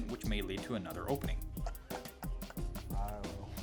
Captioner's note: laughing